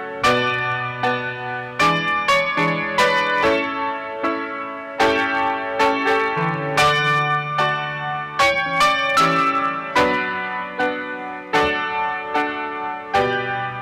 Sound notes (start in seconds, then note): none